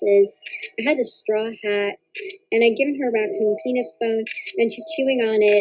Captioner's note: snap